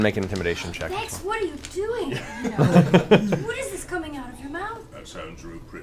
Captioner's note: gasps